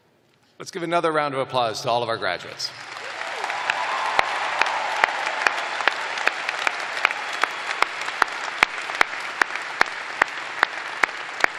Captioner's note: cheers and applause